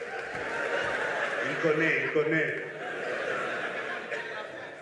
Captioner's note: speaking French; laughter; speaking French